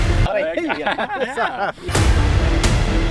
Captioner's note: epic music continues; laughing; epic music continues